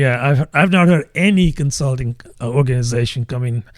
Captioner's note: uh